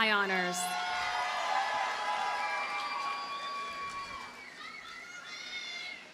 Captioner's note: audience cheers and applauds